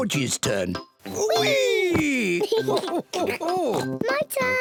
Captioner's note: laughs